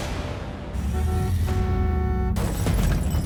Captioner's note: honking